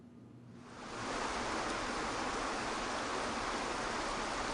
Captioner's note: water whooshing